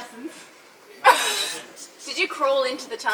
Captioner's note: laughs